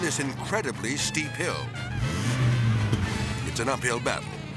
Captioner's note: engine revving; whimsical jazz music